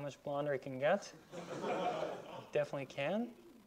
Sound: students laughing

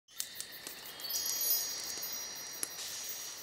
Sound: chimes ringing

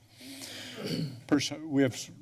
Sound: clears throat

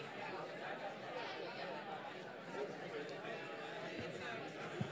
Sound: people chatting indistinctly

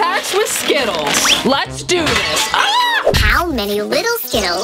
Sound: plate smashing

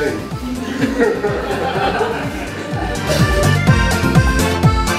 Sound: laughing

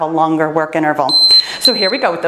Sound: timer beeping

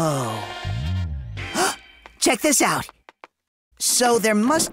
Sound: gasps

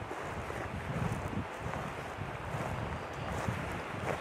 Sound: wind whooshing; footsteps thudding

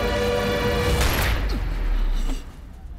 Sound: gun shot

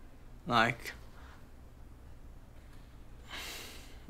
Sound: sighs

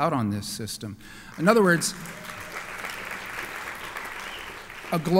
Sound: applause

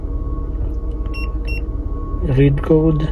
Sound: beep... beep

